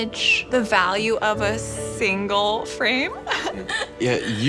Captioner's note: laughs